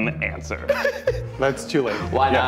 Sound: laughing

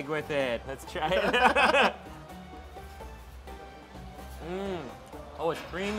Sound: both laugh

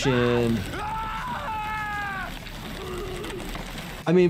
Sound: victim screams

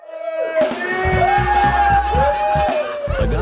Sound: cheering

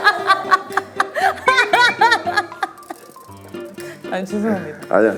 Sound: Dong-hwi couldn't hold in his laughter anymore

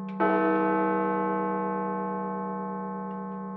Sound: chime

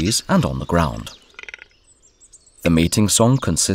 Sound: sounds of nature

